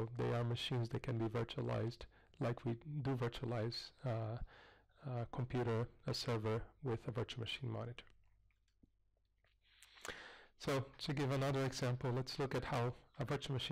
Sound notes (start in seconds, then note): 8.3 pause